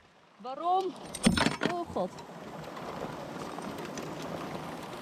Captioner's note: my wrench falling